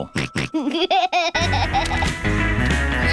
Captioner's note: snorts and laughs